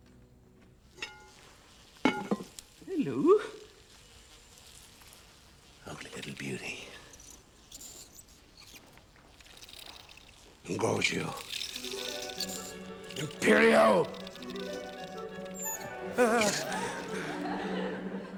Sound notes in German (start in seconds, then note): 1.3 insekten surren; 6.6 zirpen; 15.6 schnappt nach luft, alle lachen